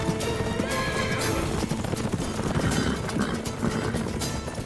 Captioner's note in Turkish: At kişniyor